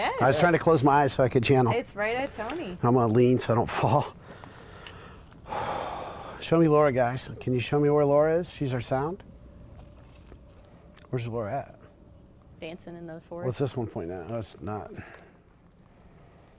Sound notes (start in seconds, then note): 4.1 exhales